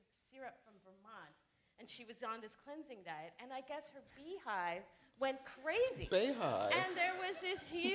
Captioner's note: laughter